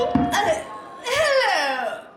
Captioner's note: someone taps silverware against a glass, then taps a microphone; gasps